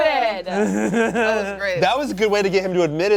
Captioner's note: laughs